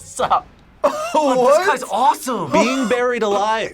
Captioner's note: laughs